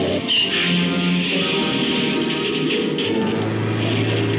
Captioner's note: tires screeching; car crashing